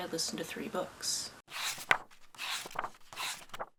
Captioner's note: pages turning